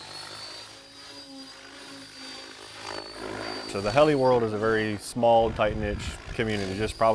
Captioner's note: electric motor whine, propeller blade sounds